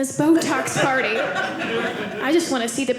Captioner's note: audience laughing